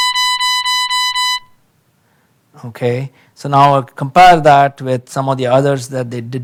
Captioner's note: horn beeping